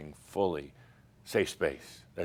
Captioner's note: none